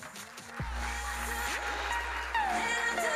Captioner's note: audience applauding